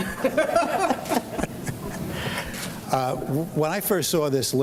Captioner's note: laughs